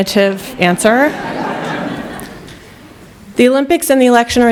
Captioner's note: laughter